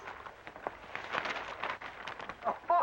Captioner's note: paper rustling; men laugh